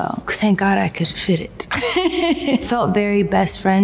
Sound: laughs

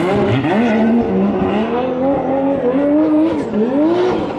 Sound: engines revving

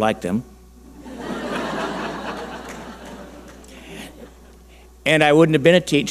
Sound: audience laughing

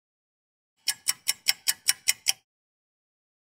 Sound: sound effect of a ticking clock

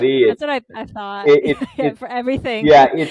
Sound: chuckles

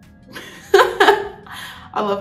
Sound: laughing

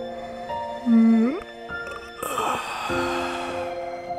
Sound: yawn

